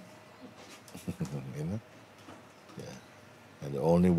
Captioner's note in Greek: γέλια